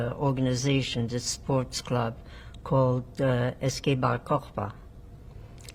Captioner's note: non-english